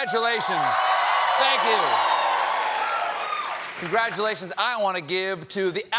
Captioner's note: cheers and applause